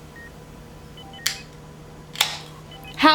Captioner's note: soda Can Opens